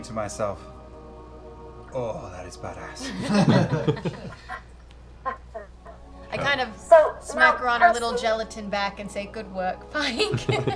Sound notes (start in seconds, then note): 3.0 laughter; 10.0 laughs